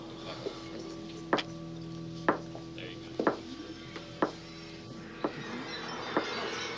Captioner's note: tap, tap, tap, tap